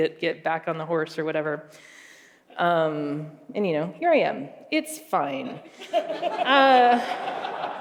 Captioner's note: laughter